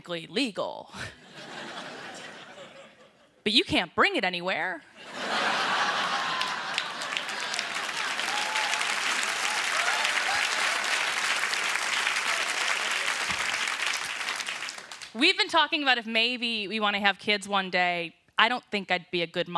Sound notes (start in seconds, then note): 5.0 laughter; 5.9 applause